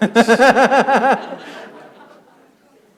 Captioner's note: laughter